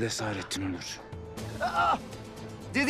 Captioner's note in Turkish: İnleme sesi